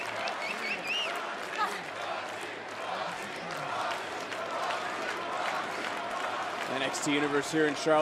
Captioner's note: crowd chants "roxy"